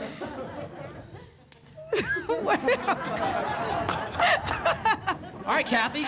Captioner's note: laughter